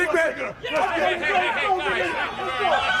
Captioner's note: crowd chatter